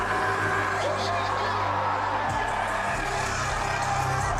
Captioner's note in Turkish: coşkulu tezahürat